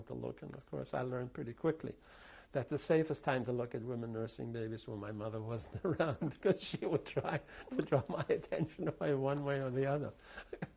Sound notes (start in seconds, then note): 7.0 laughs